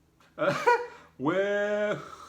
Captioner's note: laughs